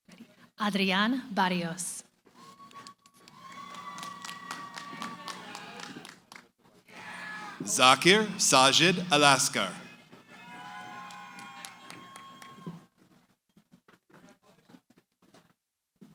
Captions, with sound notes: >> Adrian Barrios. [ Cheering ] >> Zakir Sajid Elaskar. [ Cheering ]